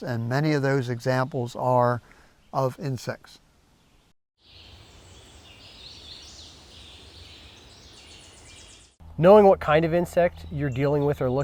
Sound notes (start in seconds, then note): 4.4 birds and insects chirping